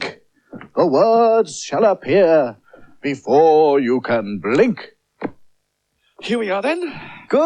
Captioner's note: clicks Fingers